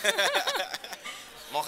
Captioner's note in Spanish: risas